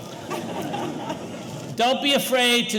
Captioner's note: audience laughing